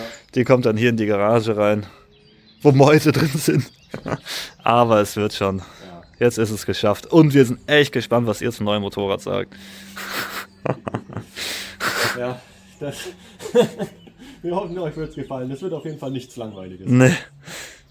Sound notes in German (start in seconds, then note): 3.1 gelächter; 11.3 schnauben; 13.1 gelächter